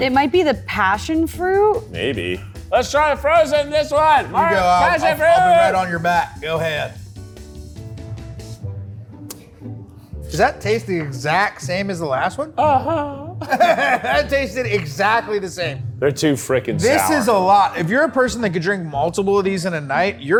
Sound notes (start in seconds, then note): 12.6 laughs